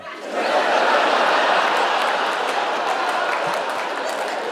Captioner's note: audience laughing